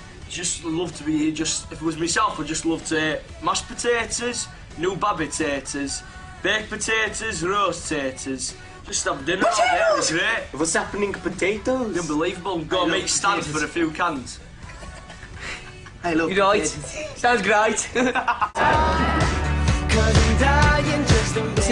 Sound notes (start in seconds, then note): 14.6 quiet laugh; 19.8 laughs